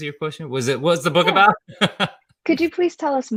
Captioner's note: laughs